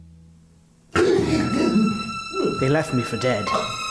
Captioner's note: man gasps